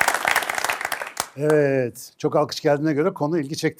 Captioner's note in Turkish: alkış